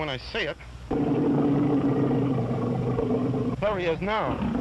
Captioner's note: lion roars